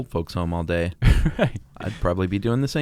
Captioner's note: laughs